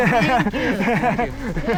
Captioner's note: laughing